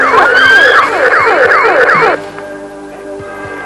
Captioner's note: laser fire; scream